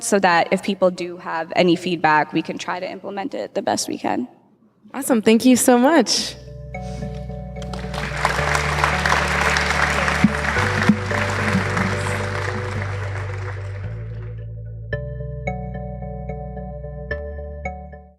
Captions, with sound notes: so that if people do have any feedback, we can try to implement it the best we can. - Awesome, thank you so much. (clapping) (mellow music)